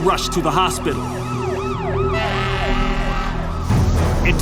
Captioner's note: siren wails, horn honks